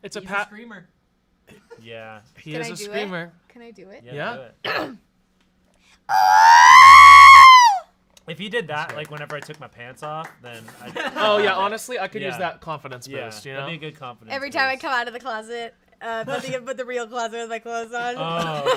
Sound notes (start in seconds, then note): 4.6 clears her throat; 18.4 laughs